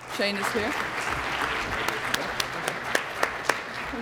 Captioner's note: applause